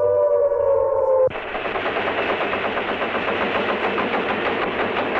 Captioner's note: machinery sputtering